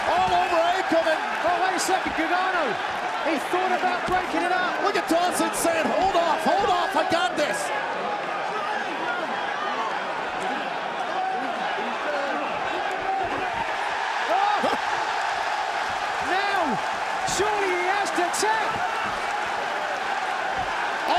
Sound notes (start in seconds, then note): 8.8 crowd chatter; 14.0 crowd cheering